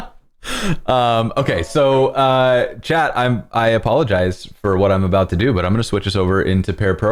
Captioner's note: laughter